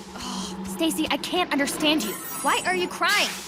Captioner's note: scoffs